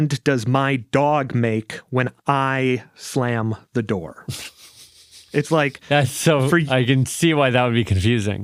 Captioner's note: laughs